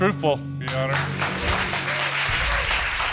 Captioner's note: audience applauds